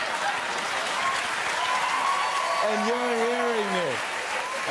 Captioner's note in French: rires et acclamations